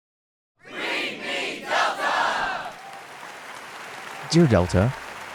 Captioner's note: audience applauding